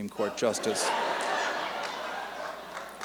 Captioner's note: laughter